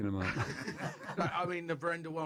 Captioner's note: laughter